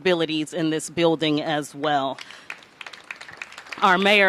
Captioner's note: applause